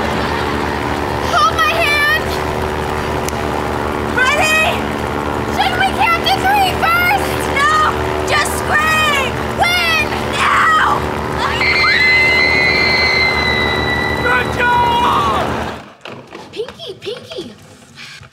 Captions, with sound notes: Hold my hand! Ready! - Shouldn’t we count to three first? - No! Just scream! - When? - Now! [screaming] Good job! Pinky! Pinky!